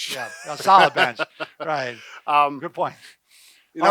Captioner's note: laughing